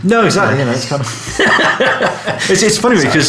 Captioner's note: laughing